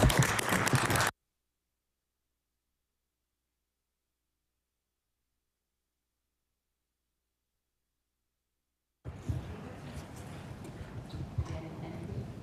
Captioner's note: applause